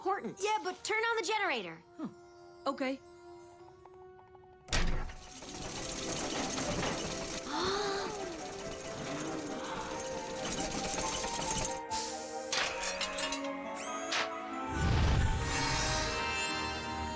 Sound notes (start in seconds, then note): 4.8 generator whirring; 7.4 gasps